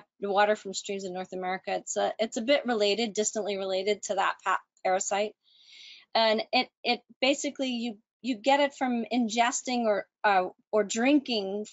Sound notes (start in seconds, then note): none